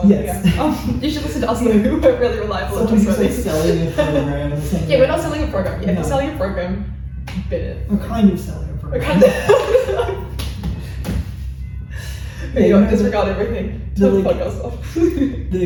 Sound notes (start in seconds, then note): 7.5 laughs, slaps head